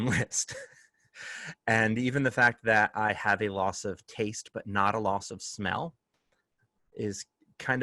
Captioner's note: laughter